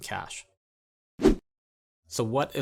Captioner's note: air whooshing